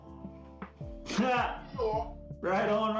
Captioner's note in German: lacht